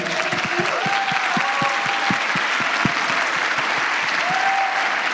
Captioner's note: applause